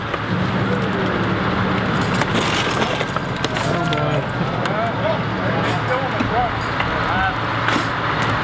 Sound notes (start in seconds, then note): 1.8 chain clanking